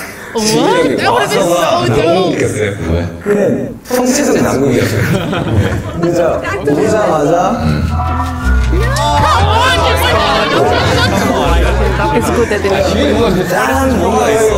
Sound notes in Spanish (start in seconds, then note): 11.2 Ja ja ja